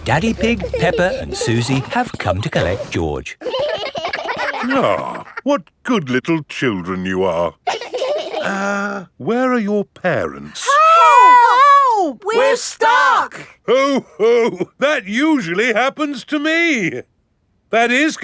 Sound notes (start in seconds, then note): 3.3 giggling